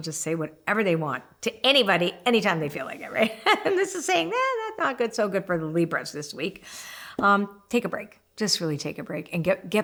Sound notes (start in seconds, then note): 3.3 laughing